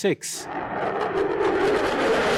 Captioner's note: jet engine